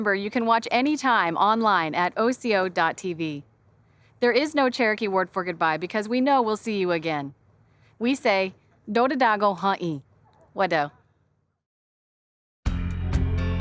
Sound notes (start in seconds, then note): 8.2 speaks Cherokee language; 12.7 show theme music plays